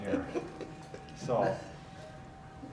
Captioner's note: laughs